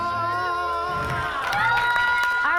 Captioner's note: audience applauding; audience cheering